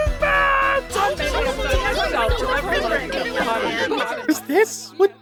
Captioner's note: screaming